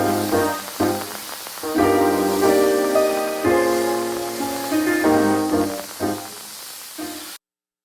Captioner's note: washing